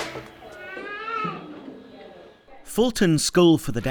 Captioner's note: girl squealing